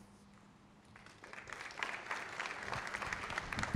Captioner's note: applause